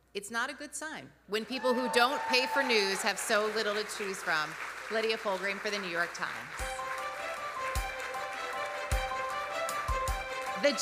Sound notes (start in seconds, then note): 7.3 audience applauding; 8.3 gentle music